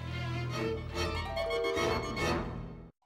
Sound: hoarsely

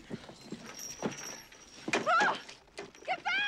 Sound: kate screams, startled

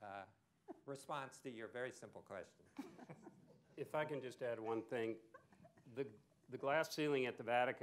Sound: laughter

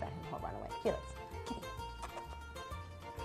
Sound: kissing

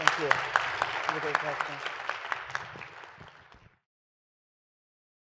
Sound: applause

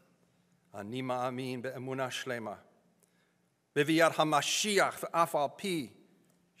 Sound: speaking in foreign language

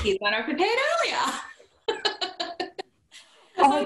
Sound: laughter

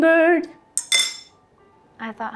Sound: clinks

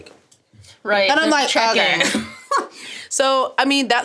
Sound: laughs

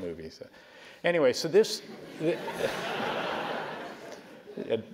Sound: laugh

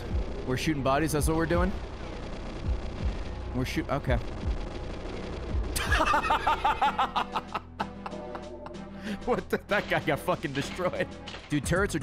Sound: laughs

